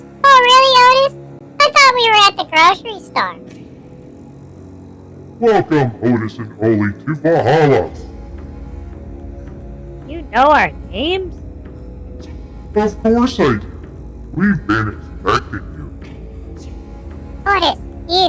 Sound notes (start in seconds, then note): 0.0 excitedly; 0.7 sarcastically; 6.5 in a booming voice; 14.4 laughing; 16.0 Whispering to Otis